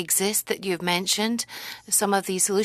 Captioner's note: speaking French